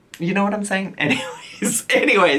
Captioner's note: chuckles